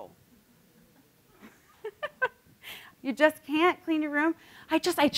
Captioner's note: laughs